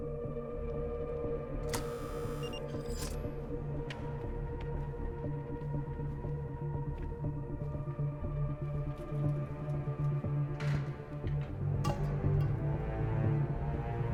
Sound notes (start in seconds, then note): 1.7 door lock beeping; 6.2 dramatic music